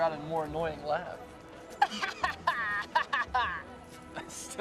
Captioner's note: laughs like a little gremlin